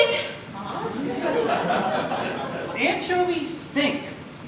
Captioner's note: audience laughs